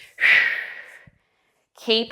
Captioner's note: breathing sharply